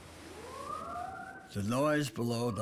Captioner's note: siren